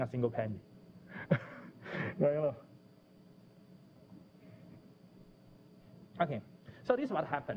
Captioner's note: pause